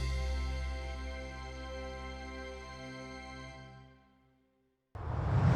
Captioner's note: whoosh